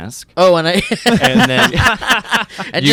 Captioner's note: laughs